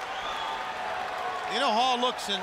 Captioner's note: crowd chatter